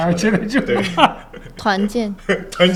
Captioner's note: laughter